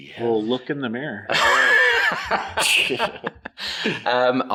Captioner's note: everyone laughs